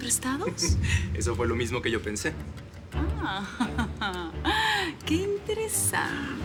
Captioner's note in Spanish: Risas